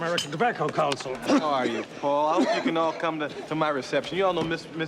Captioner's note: coughing